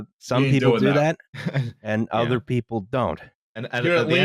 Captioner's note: laughs briefly